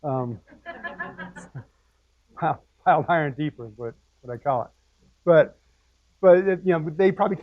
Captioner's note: laugh